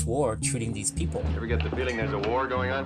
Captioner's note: soundbite of tv show, "m*a*s*h"